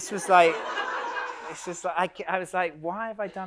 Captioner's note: audience laughs